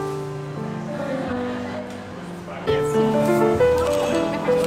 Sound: customers chattering

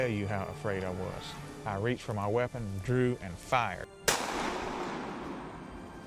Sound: gunshot

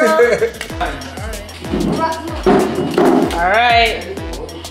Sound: chair thudding

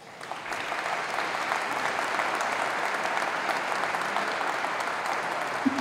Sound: applause

